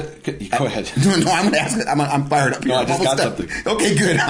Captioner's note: laughing